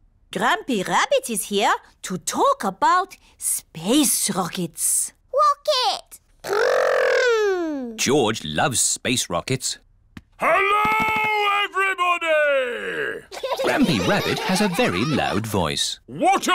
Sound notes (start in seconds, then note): 10.5 shouts; 13.3 laughter